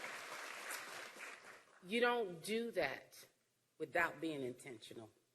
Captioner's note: applause